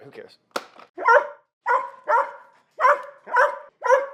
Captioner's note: dog barks